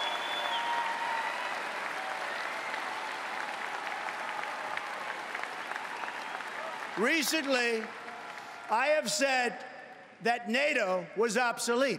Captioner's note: applause